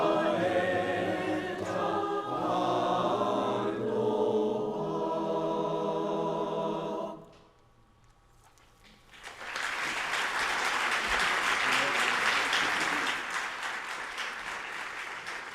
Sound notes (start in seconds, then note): 8.9 audience applauding